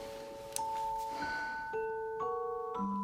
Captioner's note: sighs